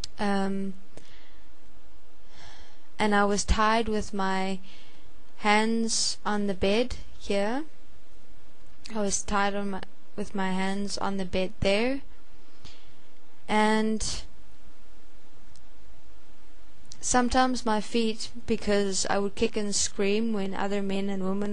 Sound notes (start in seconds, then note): 2.3 sigh